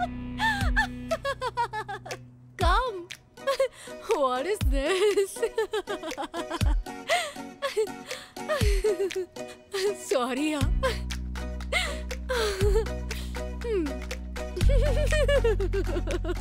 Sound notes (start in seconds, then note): 0.4 clapping; 4.9 laughs